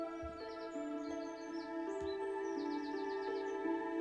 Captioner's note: birds singing; soft suspenseful music